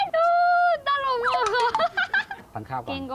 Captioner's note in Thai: เสียงหัวเราะ